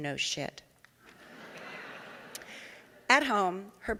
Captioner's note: audience laughing